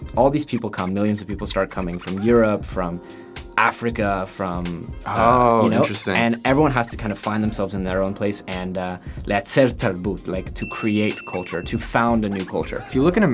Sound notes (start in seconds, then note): 9.3 speaks foreign language